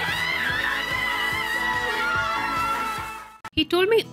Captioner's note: all cheering